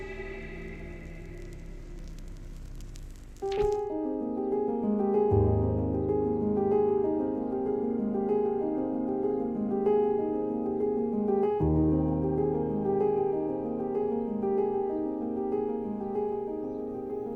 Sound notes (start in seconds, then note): 0.9 needle clicks in vinyl record run-out groove; 3.5 piano music